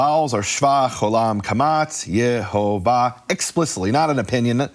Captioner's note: speaking foreign language